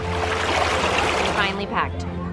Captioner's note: water rushing